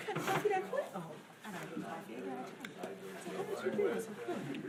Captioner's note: speaking faintly